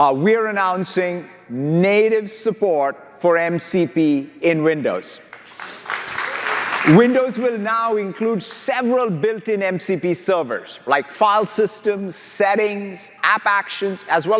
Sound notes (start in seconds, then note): 5.3 audience applauding